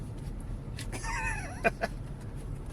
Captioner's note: laughs